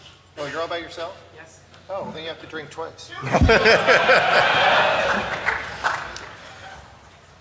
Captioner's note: laughter